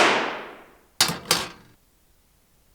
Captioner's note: gun shot; gun clanking on floor